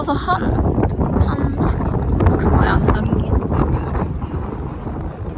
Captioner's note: the sound of the wind was crazy